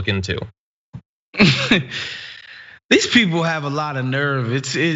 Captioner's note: laugh